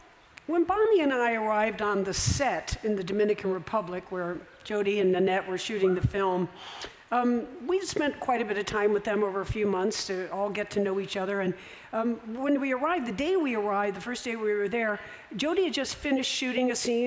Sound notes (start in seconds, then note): none